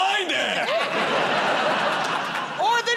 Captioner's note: laughter